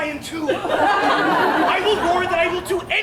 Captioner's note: audience laughs